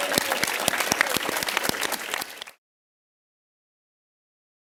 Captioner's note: applause